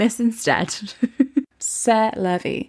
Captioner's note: laughing